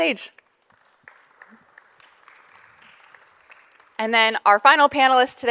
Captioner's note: audience applauding